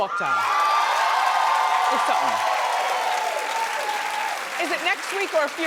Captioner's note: audience cheers